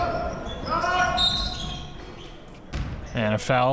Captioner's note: whistle blows